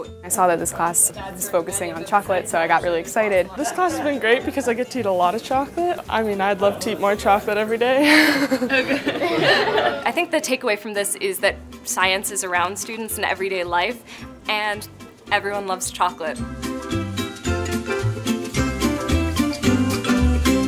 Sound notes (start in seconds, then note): 8.0 laughing; 17.1 upbeat music